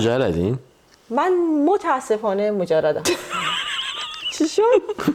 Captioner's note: laughs